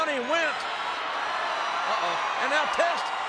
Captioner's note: audience cheering